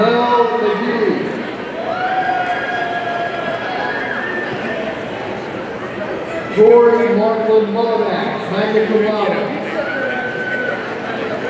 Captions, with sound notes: Ahmael McGee, (audience cheering) Tori Marklyn Mulanax, magna cum laude,